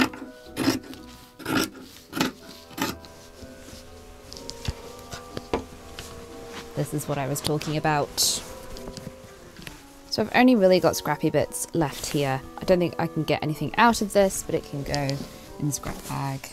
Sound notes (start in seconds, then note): 8.4 shuffling